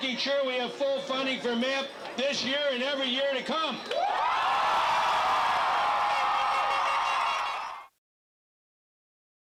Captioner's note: massive Cheering